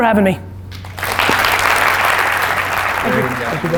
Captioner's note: applause